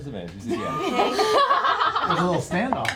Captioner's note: laughter